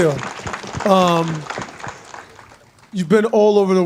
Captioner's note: audience clapping